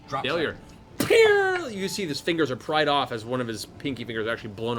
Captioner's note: gunshot